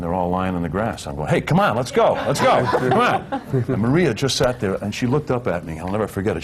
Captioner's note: laughter